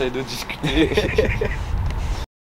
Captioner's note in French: rires